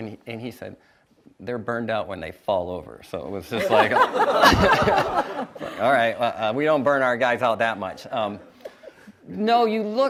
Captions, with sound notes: And he said, "They're burned out when they fall over," so it was just like... (audience laughs) "Alright, we don't burn our guys out that much."